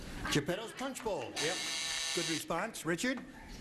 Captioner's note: buzzing